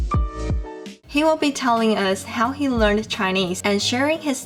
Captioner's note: Mandarin